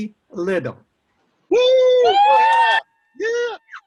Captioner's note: cheering